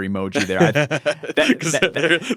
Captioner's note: laughing